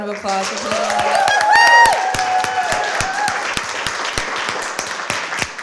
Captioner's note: applause